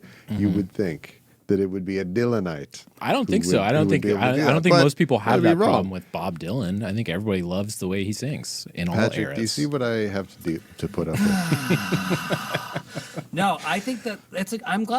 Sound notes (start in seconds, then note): 11.0 laughing